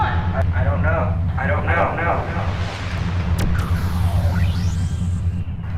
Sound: electronic whirring sound

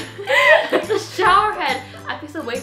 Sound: laughing

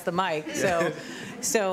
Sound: laughter

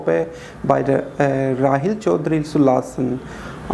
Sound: speaking German

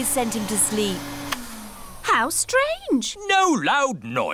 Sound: whirring stops

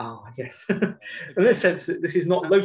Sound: laughs

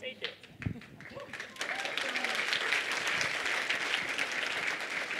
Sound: audience applauds

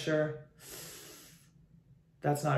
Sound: hisses

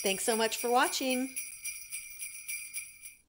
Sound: sleigh bells

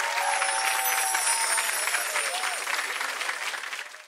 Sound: audience cheering

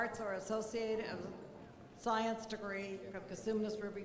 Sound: none

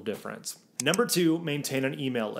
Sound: graphics click

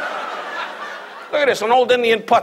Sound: audience laughs

